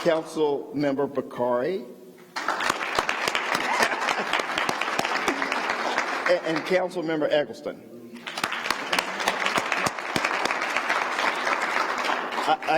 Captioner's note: applause